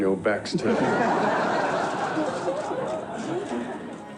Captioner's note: all laugh